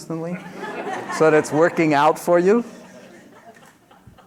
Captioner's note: laughter